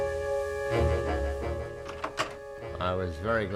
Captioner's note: door opens